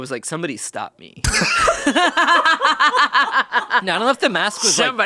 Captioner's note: laughs